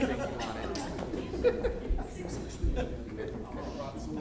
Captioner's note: indistinct chatters